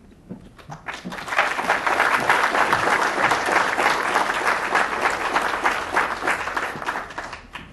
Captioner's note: applause